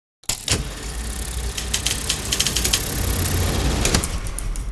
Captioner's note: film reel spinning